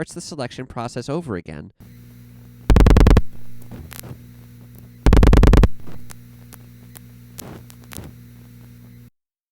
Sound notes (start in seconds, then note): 2.4 5 loud clicks, several fast quiet clicks; 5.0 6 loud clicks, several slower quiet clicks